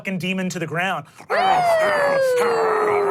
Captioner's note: cheers; imitates dog growling